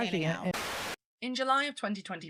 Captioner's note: static